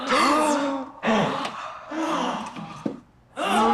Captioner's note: everyone gasping